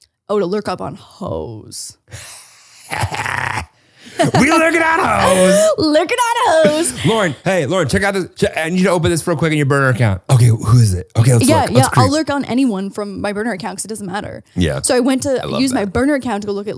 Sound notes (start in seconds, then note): 2.3 laughing